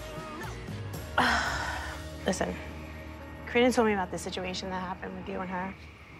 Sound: sighs

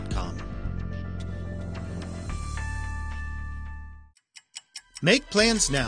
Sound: clock ticking

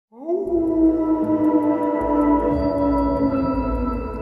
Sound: wolf calls

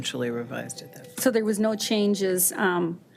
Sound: device chiming

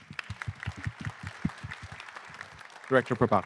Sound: attendees clapping

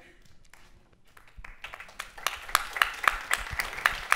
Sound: applause

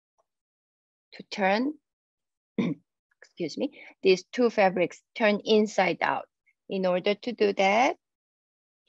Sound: clears throat

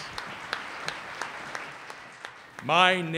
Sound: applause

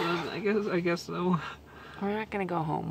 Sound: laughing

